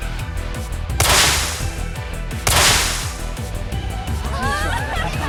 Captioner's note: splash! Splash!